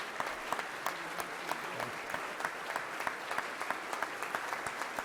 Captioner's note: members clapping